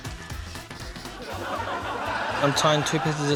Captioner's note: laughter